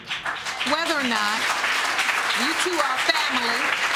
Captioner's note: audience applauding